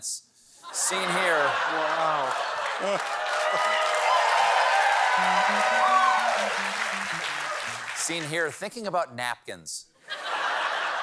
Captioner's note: cheers and applause